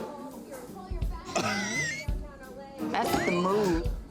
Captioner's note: laughs